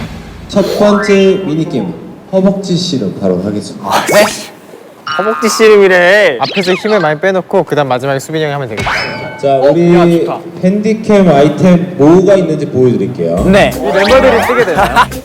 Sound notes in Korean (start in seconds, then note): 4.8 탄식